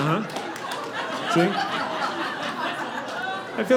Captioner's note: audience laughing